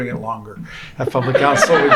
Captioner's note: laughter